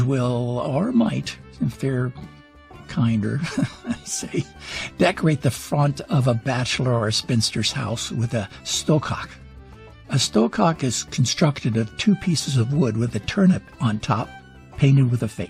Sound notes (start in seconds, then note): 3.4 laughs